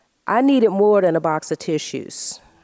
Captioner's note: none